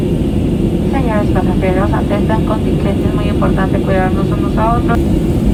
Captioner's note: flight attendant speaking